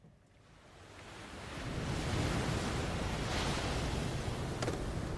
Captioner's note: ocean waves